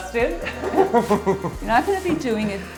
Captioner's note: laughs